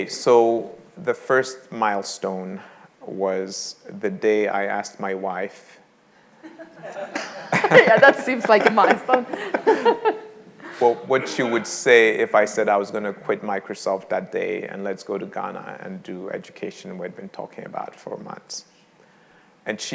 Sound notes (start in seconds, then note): 6.4 all laughing